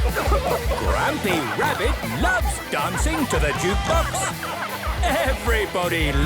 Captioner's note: shouting